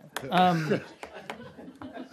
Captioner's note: laughter